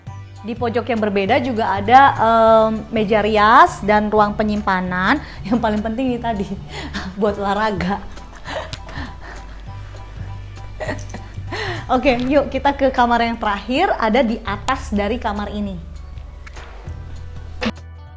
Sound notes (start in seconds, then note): 10.3 laugh